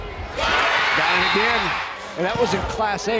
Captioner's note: crowd cheering